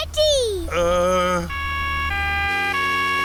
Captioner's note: siren wailing